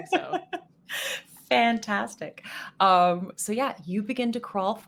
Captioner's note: laughs